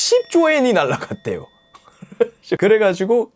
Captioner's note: laughing out loud